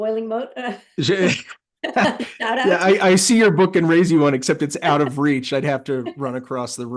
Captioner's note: laugh